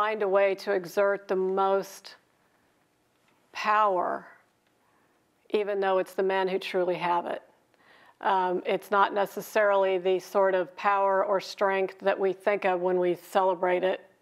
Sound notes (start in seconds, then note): none